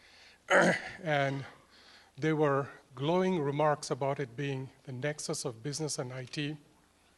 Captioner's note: cough